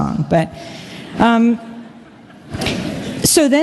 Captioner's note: laughter